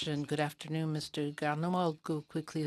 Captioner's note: speaking in French